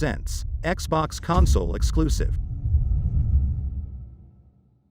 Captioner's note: dramatic sound